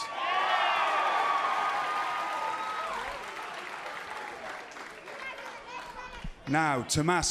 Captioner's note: cheers and applause